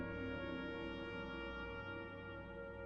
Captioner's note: none